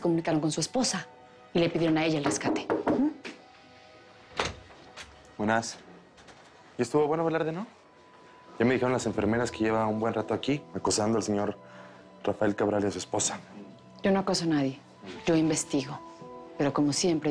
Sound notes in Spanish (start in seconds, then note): 2.2 Toques en la puerta